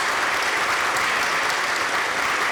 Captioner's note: applause